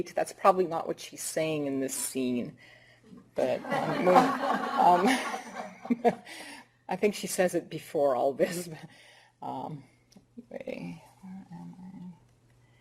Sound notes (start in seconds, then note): 3.6 laughter